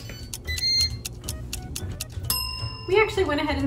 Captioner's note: fryer beeps, timer ticks; ding!